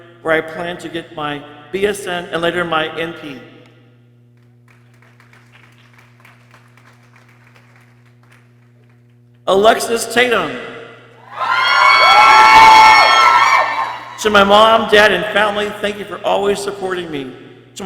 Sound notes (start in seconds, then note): 4.6 people clapping; 11.2 people cheering